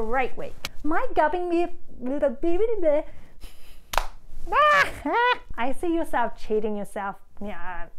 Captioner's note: laughs